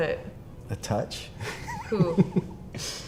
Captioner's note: interviewee giggles